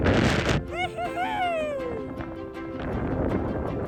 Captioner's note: shout of joy